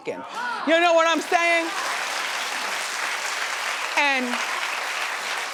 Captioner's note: audience clapping